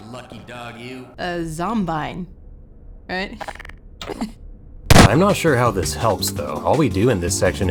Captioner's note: b-boom